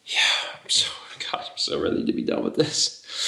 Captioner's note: sighing, softly